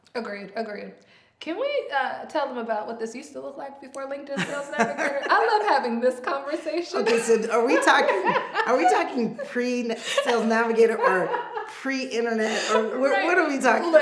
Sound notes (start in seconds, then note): 4.3 laughs